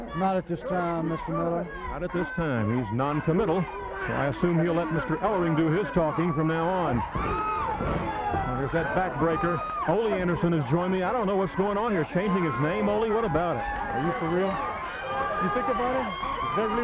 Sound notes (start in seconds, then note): 6.9 body thudding; 8.5 crowd clamoring